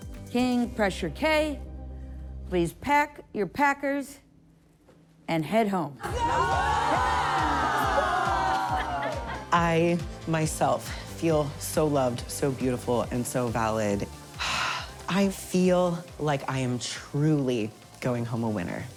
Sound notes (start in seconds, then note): 6.0 everyone cheering